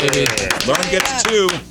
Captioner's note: clapping